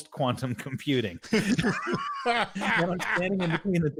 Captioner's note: laughing